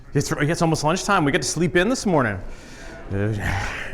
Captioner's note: laughing